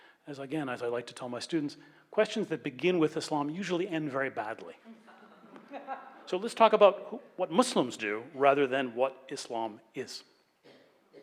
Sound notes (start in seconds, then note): 4.9 laughs